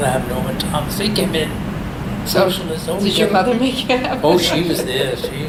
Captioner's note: laughs